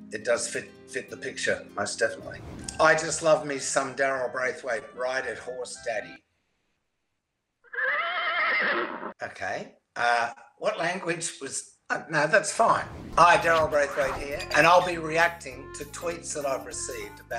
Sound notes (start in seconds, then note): 7.6 horse neighs